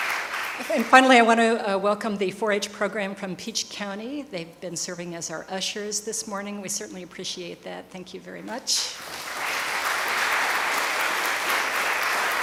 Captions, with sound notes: And finally I want to welcome the 4-H program from Peach County they've been serving as our usher's this morning we certainly appreciate that thank you very much. (applause from the audience)